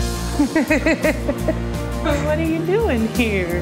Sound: laughing

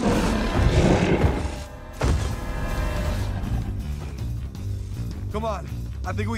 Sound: roaring

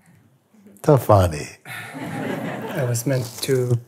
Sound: laughter

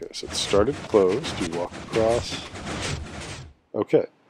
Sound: piston sounds; pistons stop

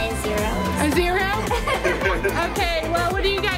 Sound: laughing

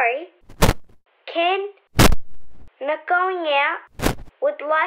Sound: crackle!; crackle; crackle!; crackle!

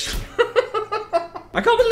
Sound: laughing

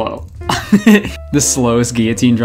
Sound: chuckles

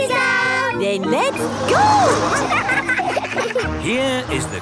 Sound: laughing

